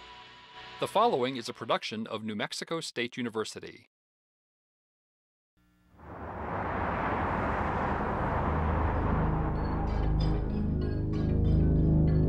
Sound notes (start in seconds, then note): 6.0 traffic roaring